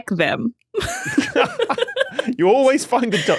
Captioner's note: laugh